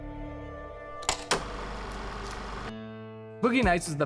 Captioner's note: film reel flapping